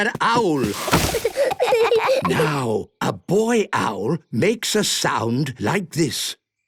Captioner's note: snorting; kids giggling